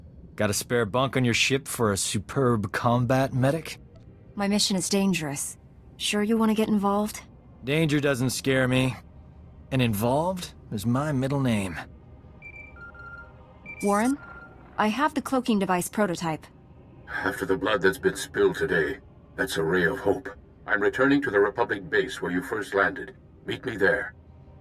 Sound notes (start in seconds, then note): 13.8 Holocomm ringing